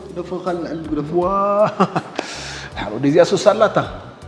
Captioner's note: laughs